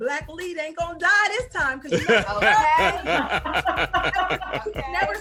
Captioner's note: laughing